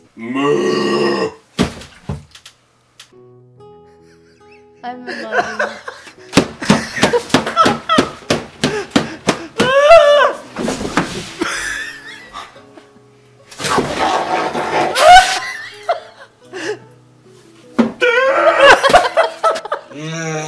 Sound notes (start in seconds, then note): 1.6 thumps; 5.0 laughs; 6.4 smashes table; 6.5 laughs; 11.4 laughs; 13.6 chews food loudly; 14.9 both laugh; 18.0 roars; 18.0 both laugh; 19.9 groans; 20.0 both laugh